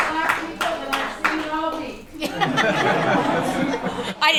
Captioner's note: laughter